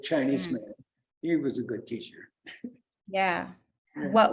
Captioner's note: laughs